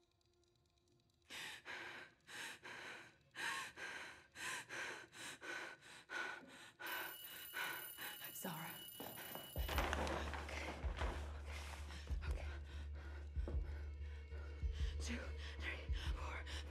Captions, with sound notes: (timer ticking) (heavy breathing) - Zara. Okay, okay, okay. Two, three, four, five.